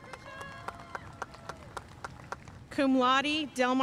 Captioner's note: audience cheering and applauding